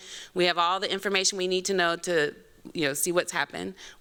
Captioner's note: none